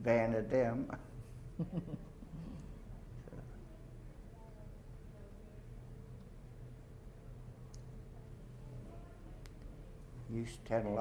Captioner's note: chuckles